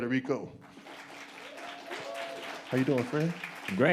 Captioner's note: audience applauds